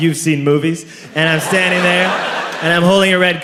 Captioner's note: crowd laughs